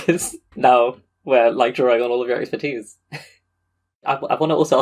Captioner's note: laughs